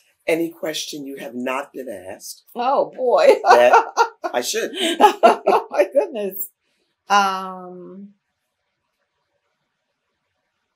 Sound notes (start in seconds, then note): 6.0 laughter